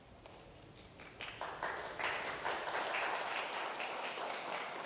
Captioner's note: congregation applauding